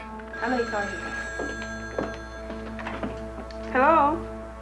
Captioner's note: ring